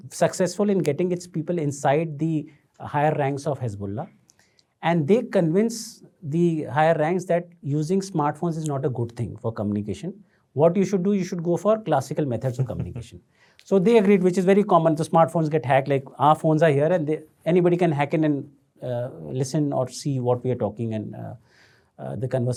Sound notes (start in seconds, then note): 12.5 chuckles